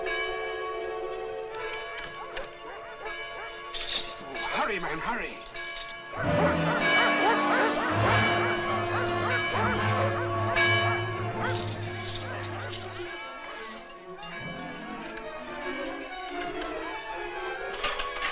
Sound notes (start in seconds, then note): 1.5 dogs Barking; 1.8 bell Ringing; 6.1 ringing Continues; 6.2 barking; 16.1 bolts Turn